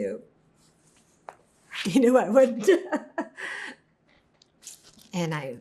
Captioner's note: laughing